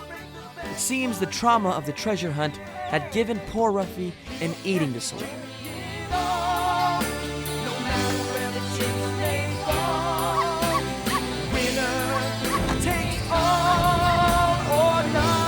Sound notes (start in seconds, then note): 2.1 pop song; 6.8 barking sounds; 11.9 plane flying sound